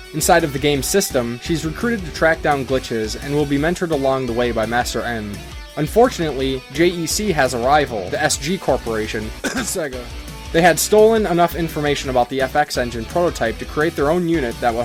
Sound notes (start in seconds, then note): 9.3 cough